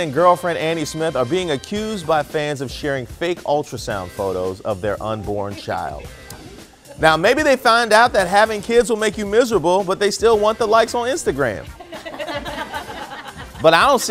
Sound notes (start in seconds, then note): 5.2 laughter